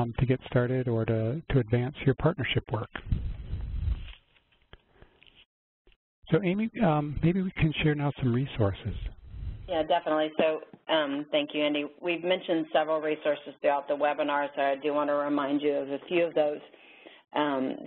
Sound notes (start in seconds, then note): 9.6 voiceover